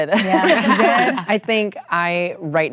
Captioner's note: laughter